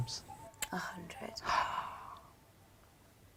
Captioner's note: gasps